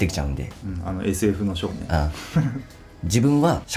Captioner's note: laughs